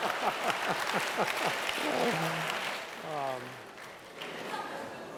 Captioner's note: applause